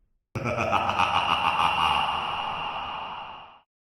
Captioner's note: Adam laughs